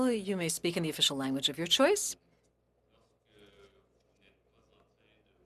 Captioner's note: speaking French